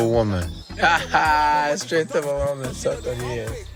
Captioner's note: laughs